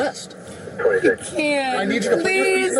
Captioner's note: radio chatter